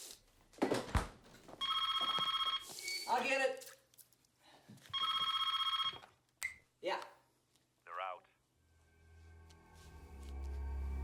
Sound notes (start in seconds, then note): 1.6 phone rings